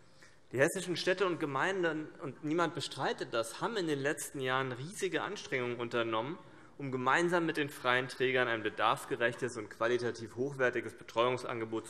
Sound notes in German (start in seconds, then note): none